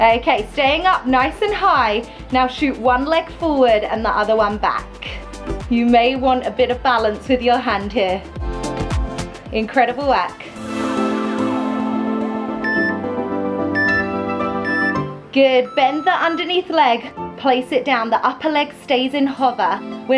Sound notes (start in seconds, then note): 13.7 timer beeping